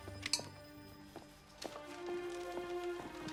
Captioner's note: cigar clanks